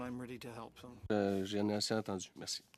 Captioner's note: speaking French